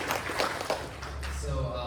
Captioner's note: applause